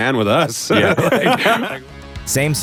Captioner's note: laughter